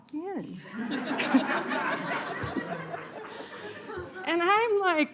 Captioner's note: laughter